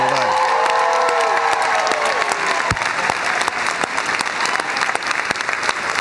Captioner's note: cheers and applause